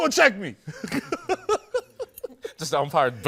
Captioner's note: laughter